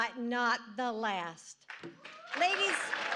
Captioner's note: applause